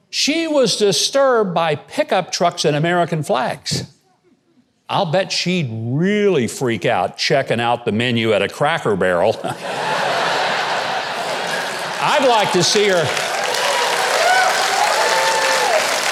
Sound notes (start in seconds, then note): 9.4 audience laughing; 13.7 audience yelling